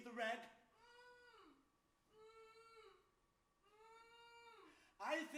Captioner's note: woman Groans